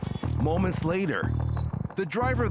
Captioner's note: none